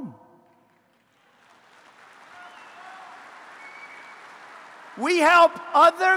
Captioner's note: applause